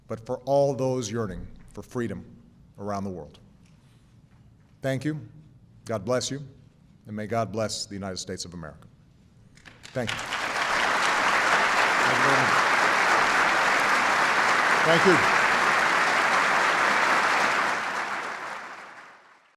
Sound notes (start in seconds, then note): 8.9 applause